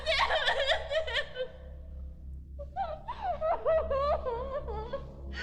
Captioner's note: crying uncontrollably